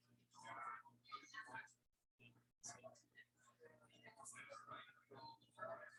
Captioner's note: people chattering indistinctly